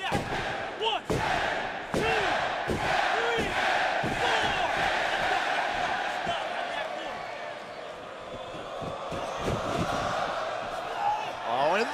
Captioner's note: fans chanting